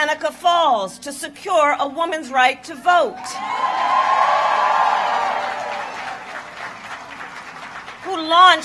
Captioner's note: applause